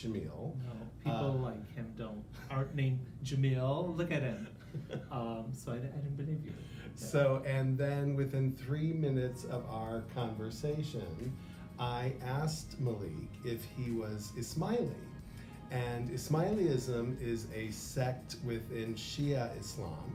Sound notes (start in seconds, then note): 4.3 laughter